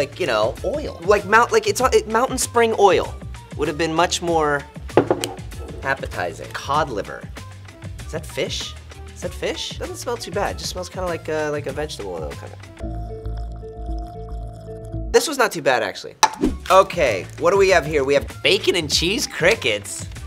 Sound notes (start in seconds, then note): 13.0 slurping